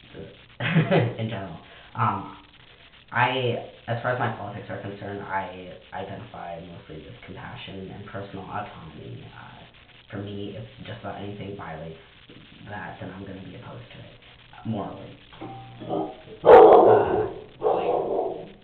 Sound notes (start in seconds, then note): 6.5 doorbell rings and dog barks in response, mumbles "someone is that the door"